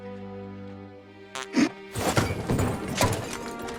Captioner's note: flatulence